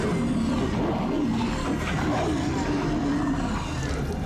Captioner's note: moaning